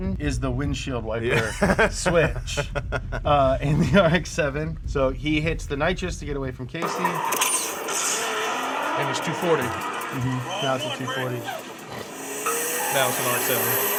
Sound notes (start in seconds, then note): 6.8 engines roaring